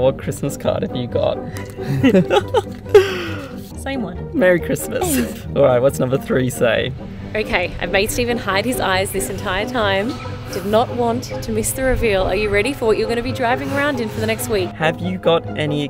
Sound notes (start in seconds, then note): 1.7 laughing; 4.9 laughing